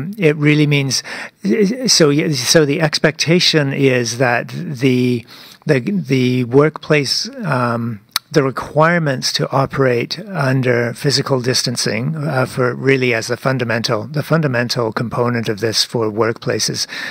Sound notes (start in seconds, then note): 5.5 speaking French